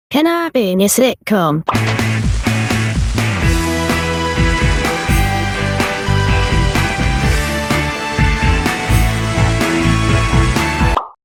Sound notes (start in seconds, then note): 1.6 pop; 10.9 pop